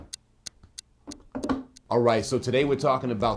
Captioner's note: clock ticking